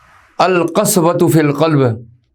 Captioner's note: Arabic